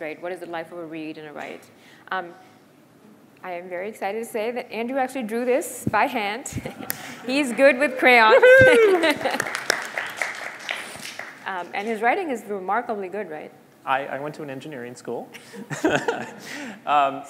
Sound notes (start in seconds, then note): 8.4 applause